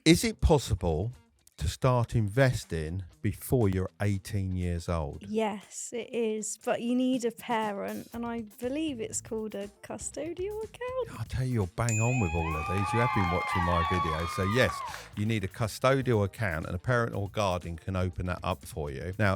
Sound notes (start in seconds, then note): 11.9 bell dinging; 11.9 crowd cheering